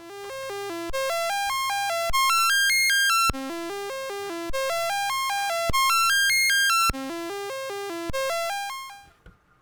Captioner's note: rising and declining series of C64 tones